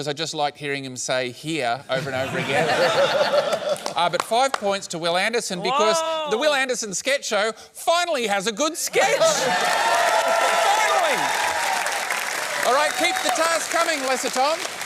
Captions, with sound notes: 'cause I just liked hearing him say 'here' over and over again. Ah, but five points to Wil Anderson because the Wil Anderson Sketch Show finally has a good sketch! (CHEERING AND APPLAUSE) Finally! Alright, keep the tasks coming, Lesser Tom.